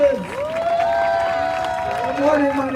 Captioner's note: crowd cheering